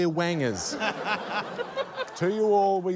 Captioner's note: laughter